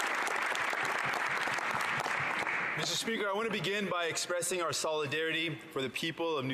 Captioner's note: some Applause